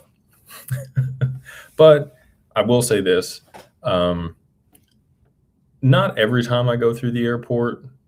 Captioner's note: laughter